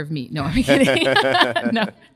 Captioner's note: both laugh